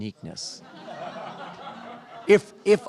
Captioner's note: laughter